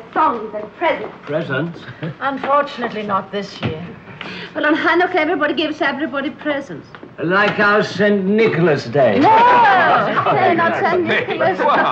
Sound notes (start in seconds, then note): 9.2 all shouting; 11.6 group laughing